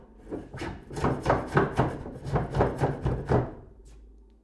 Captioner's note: tool knocking